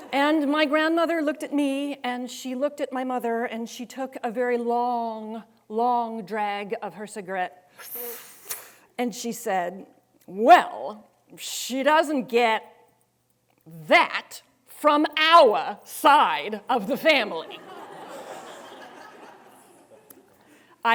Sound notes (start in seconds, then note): 7.8 air sucking; 17.4 students laughing